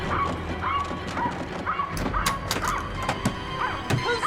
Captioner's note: lock clicking; suspenseful orchestral music; dog barking; lock clicking; hand pounding